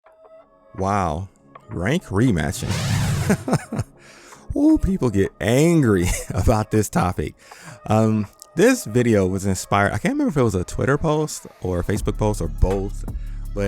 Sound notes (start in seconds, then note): 3.1 laughter